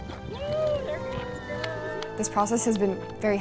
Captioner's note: students cheering